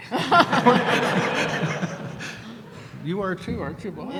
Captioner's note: laughter